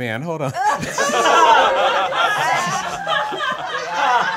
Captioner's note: all laughing